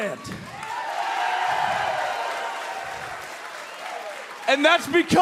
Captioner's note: cheers and applause